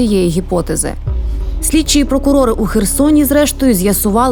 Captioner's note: Ukrainian